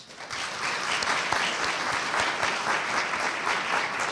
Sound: audience applauding

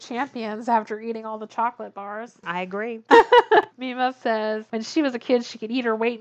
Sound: laughs

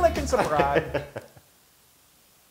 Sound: laugh

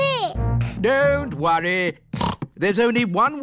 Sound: snorts

